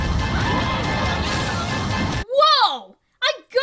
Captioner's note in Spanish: exclaman